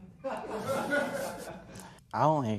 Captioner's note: laughter